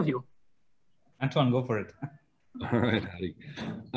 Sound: laughs

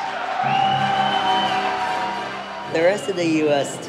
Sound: audience cheering and clapping

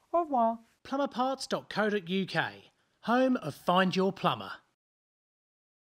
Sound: voiceover

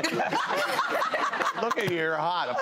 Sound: laughs

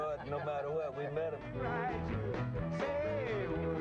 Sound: crowd laughing

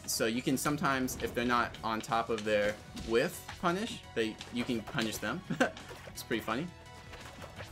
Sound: laughs

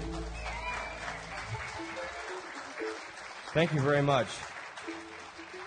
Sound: audience applauding

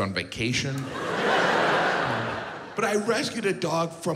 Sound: audience laughs

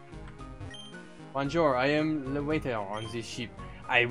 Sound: French accent

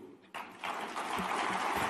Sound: applause

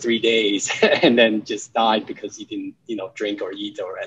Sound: chuckles

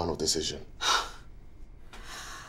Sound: sighs

